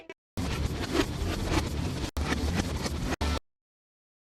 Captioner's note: quick reversed damage noises